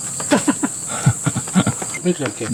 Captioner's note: laughing